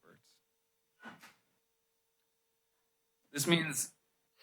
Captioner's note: pause